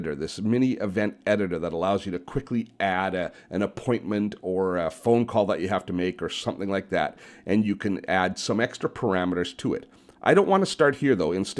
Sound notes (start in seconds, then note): none